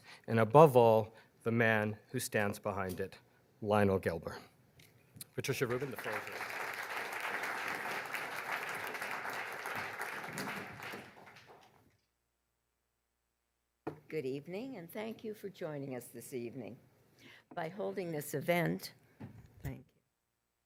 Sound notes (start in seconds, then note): 5.4 audience applauds